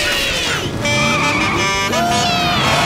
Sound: horn honking

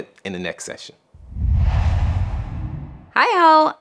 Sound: logo swooshes

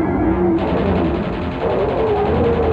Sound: maching gun sounds

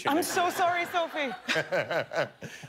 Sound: laughter

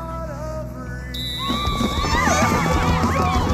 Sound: whistle blowing; everyone cheering

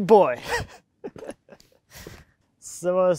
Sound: laughs

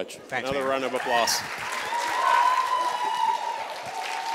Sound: applause

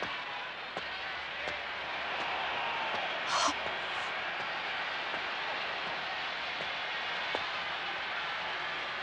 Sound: applause

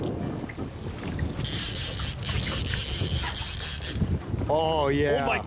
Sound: drag sound

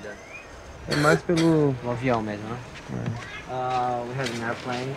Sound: both speaking foreign language

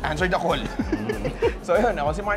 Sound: laughs

